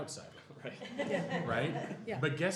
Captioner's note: laughter